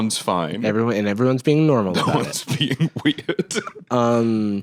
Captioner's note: laughing